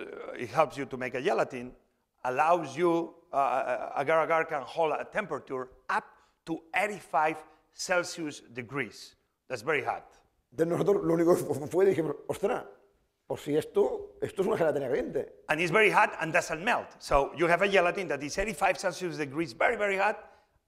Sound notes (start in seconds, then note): 11.5 speaking spanish